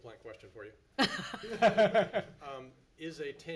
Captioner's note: board laughs